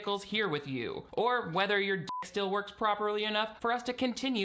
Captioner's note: beep